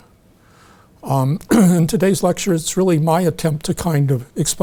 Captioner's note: clears throat